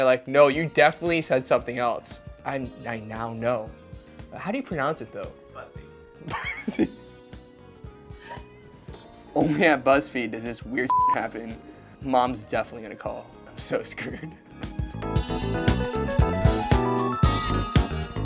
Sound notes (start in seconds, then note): 6.3 laughs; 10.8 beep; 13.6 upbeat funk music